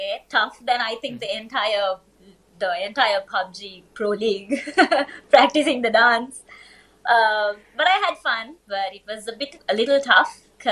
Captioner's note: laughs